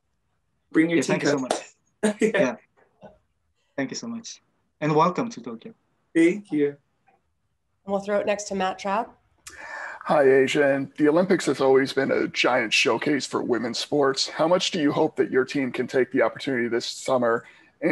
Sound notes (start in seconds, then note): 2.2 A'ja laughs